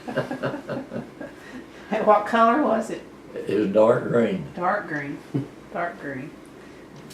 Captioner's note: laughter